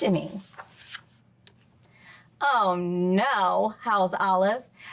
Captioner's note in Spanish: crujido de página